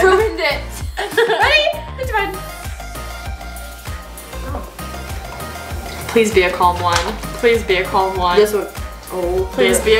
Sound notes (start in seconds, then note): 1.4 laughs